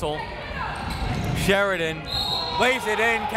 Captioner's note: whistle